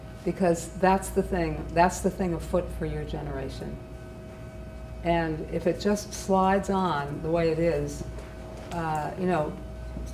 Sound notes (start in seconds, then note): none